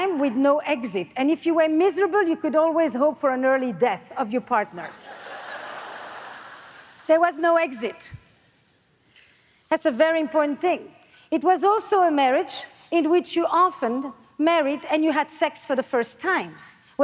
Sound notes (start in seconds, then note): 4.9 audience laughs